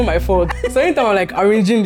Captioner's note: laughs